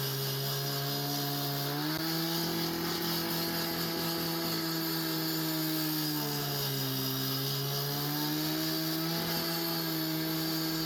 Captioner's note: stone grinder noise